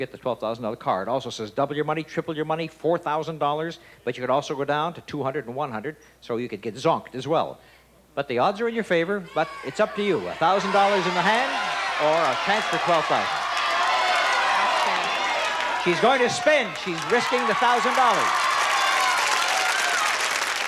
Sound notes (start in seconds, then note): 12.6 audience shouting; 17.6 applause and cheering